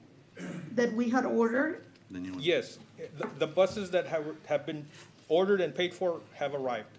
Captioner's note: clears throat